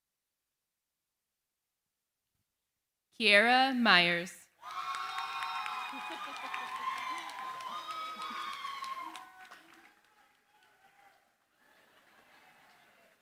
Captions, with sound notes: Kiara Myers. [CHEERING, APPLAUSE]